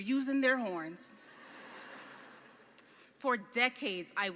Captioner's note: laughing